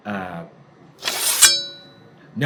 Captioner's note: sword scraping